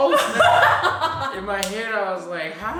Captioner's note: laughs